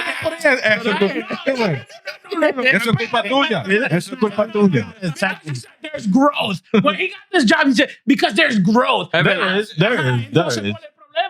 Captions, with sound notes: (Speaking In Foreign Language) Because he said there's growth. When he got this job, he said, because there's growth. (Speaking In Foreign Language)